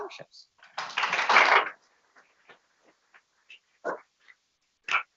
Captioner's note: people clapping